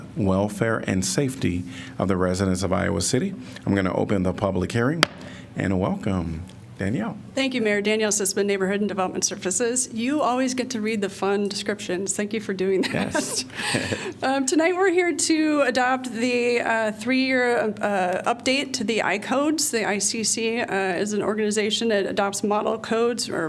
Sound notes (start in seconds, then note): 12.8 laughter